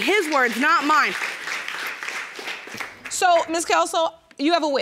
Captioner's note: audience applauds